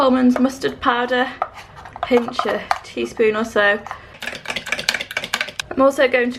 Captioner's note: mixing sounds